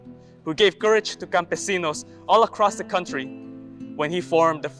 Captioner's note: speaks Spanish